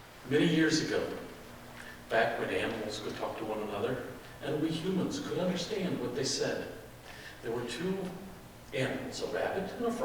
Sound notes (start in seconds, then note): none